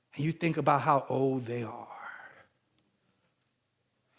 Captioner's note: none